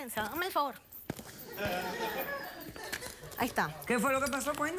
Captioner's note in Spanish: risas